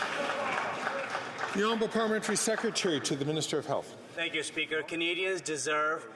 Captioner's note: some Applause